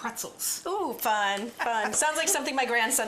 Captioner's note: laughter